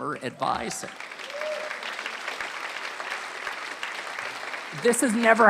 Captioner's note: applause